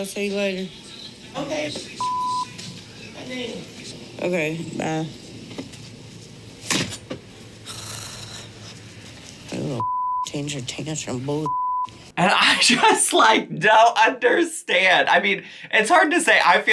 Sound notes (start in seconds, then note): 2.0 beep; 7.9 Amy sighs; 11.4 beep